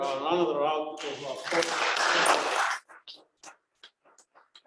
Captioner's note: applause